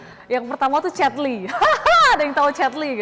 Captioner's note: laugh